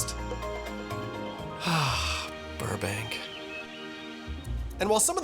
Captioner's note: birdsong